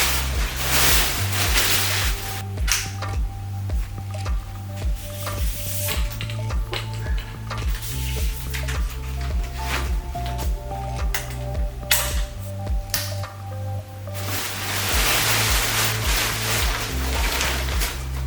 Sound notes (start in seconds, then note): 11.5 snapping sounds